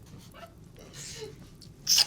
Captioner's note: kissing